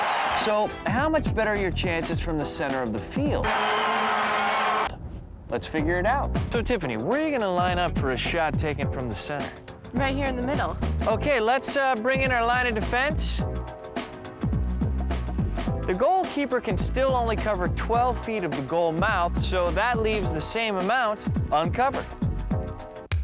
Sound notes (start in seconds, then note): 3.4 cheering